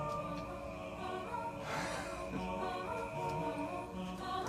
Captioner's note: sighs, laughs